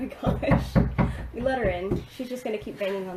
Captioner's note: knocking